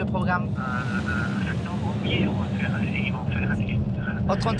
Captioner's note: voice on phone